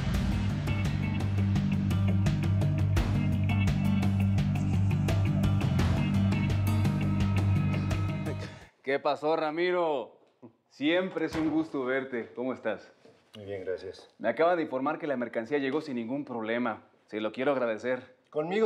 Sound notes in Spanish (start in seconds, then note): 9.0 Risas